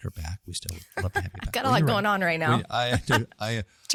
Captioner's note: laugh